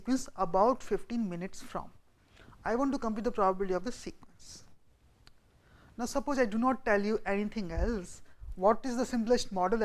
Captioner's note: winds